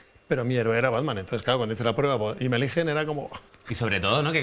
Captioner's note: none